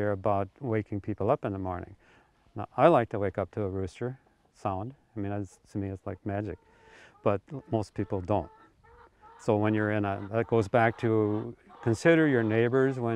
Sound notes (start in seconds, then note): 5.2 chickens clucking